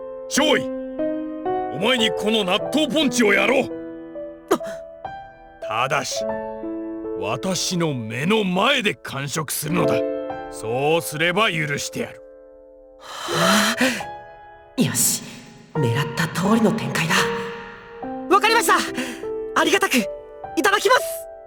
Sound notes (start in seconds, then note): 4.8 gasp; 13.1 larger gasp